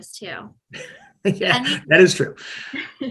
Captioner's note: laughing